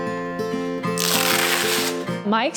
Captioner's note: plastic peeling